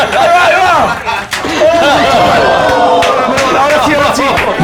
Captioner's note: cheers